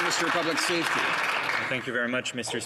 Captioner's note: applause